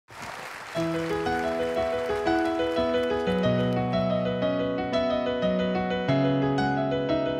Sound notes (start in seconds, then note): 0.0 applause